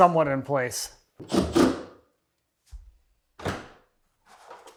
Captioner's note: drill whirring